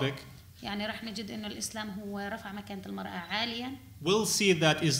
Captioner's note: speaking arabic